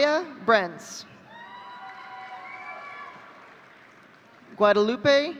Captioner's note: audience cheering